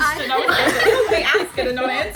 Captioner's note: everyone laughing